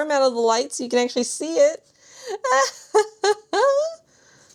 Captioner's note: laughs